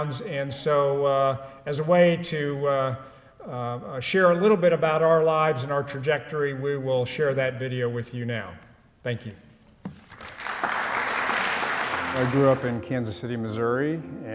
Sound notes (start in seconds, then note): 10.0 applause; 11.5 soft music playing